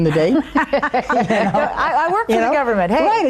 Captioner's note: everyone laughing